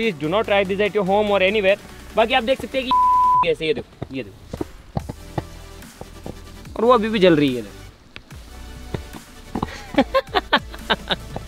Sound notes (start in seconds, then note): 9.6 laughs